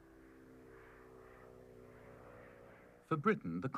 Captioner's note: airplane flying